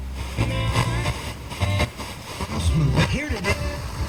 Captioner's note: static crackles